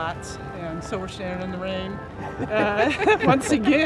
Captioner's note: both laughing